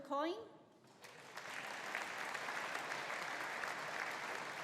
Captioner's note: audience applauding